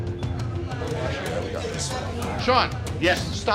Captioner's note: suspenseful music; customers chattering